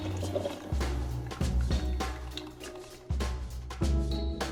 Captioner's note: coffee brewing